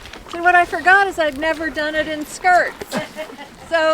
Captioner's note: laughter